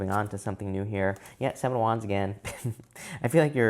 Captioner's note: chuckles